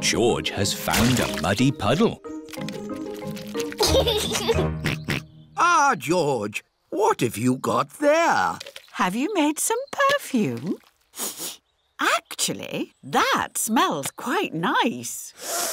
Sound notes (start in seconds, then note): 5.2 snorts; 11.1 sniffs